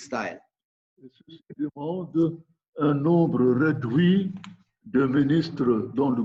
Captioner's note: speaking in foreign language